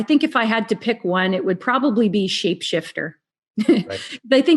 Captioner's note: laughs